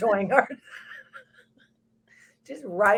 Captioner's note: both laughs